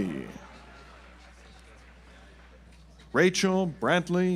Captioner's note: audience applauds